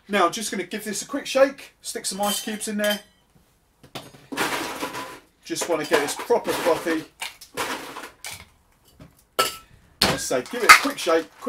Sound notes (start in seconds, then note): 5.7 ice cubes rattle; 10.5 smacks